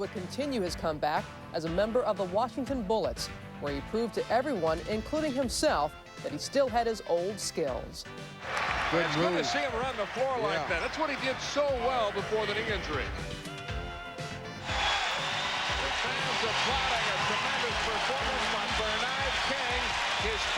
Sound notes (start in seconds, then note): 14.6 cheers and applause